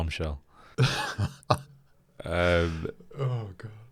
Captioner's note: laughs